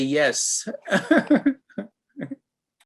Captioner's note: laughter